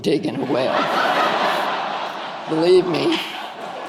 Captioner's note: audience laughing